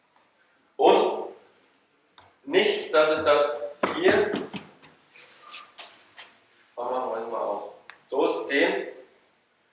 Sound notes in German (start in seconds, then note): 3.8 Schritte; 5.5 seufzen